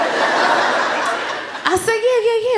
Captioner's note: laughter